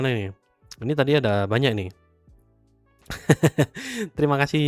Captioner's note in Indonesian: tertawa